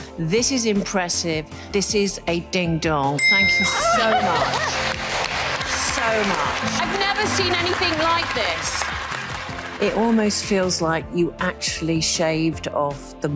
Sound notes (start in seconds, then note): 3.2 graphics dinging; 4.0 audience clapping